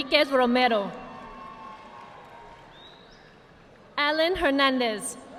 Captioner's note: audience clapping